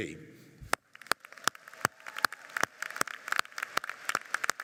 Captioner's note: applauding